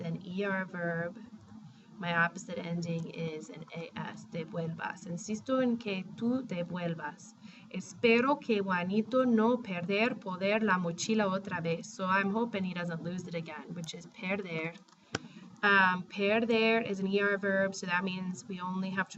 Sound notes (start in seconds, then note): 4.3 speaking spanish; 15.5 spanish